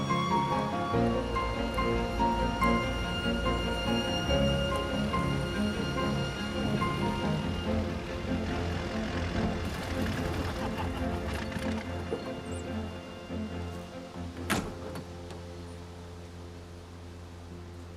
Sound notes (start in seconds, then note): 10.3 laughing